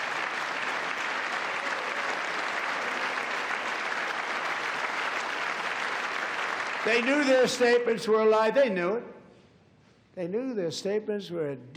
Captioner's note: cheers and applause